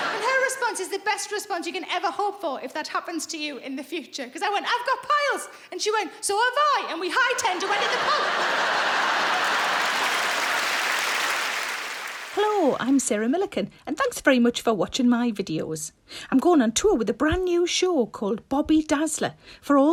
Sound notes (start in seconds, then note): 0.0 audience laughing; 7.4 audience laughing; 10.1 audience applauding